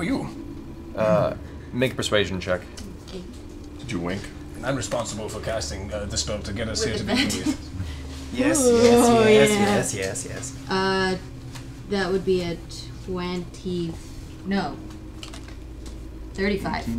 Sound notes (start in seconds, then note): 6.8 laughs